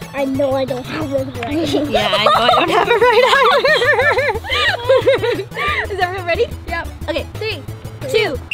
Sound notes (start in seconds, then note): 0.8 laughs